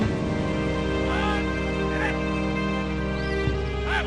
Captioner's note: soldier shouts